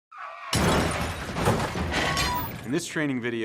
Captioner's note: sounds of tires screeching and vehicles crashing